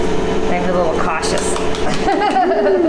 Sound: claps; laughs

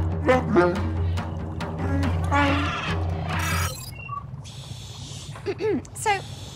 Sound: wookie speak

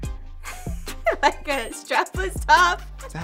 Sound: laughs

